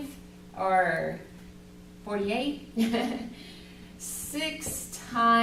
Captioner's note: teacher giggles